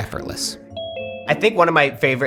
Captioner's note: device chimes